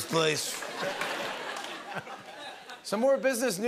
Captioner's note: laughter